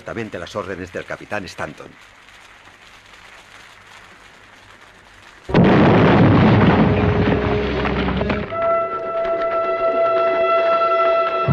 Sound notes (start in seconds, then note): 5.4 explosion booms